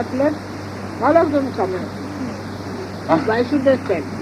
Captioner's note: Shri Mataji talks in Hindi